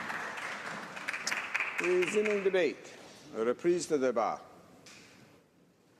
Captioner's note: some Applause